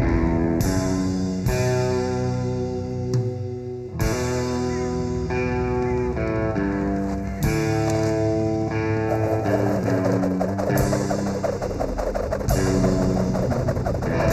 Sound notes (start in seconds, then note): 9.0 racket swooshing